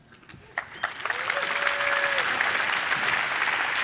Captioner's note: applauding